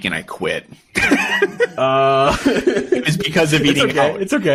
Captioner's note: laughing